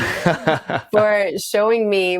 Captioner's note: both laughing